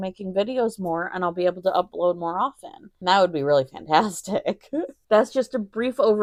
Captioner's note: giggles